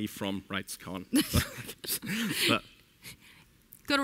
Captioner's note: both laugh